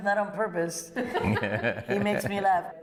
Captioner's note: laughter